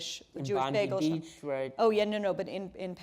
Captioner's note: mumbles